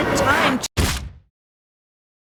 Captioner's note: splat